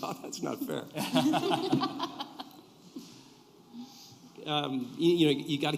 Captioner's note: laughter